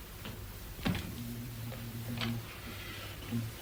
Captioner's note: hums to himself